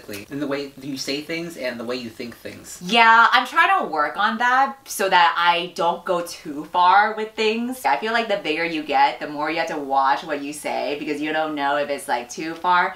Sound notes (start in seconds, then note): none